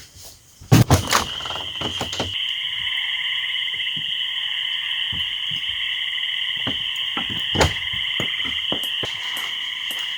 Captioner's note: night wilderness sounds